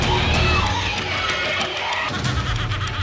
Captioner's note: people screaming; woman laughing menacingly